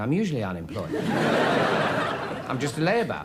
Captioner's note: audience laughs